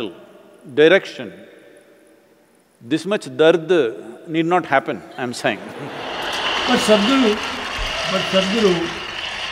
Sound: laughter/Applause

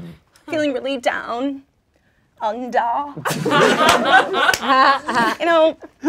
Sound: laughing

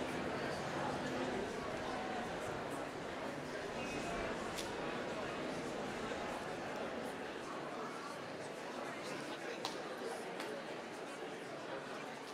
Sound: applause

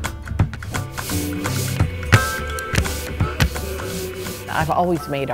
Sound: paint brush strokes

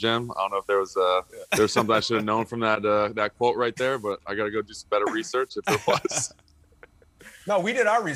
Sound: laughter

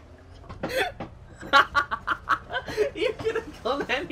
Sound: wheeze

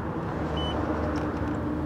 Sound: system beep

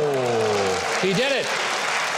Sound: audience applauding

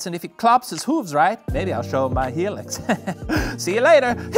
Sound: chuckles

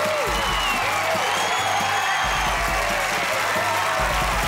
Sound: cheering

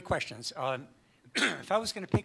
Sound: coughs

